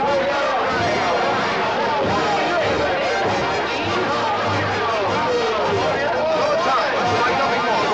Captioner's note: noisy celebration of Cyrano's defeat of 'a hundred' ruffians